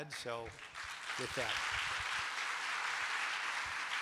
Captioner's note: applause